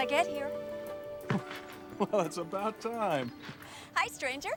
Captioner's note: chuckling